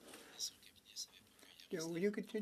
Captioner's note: speaking French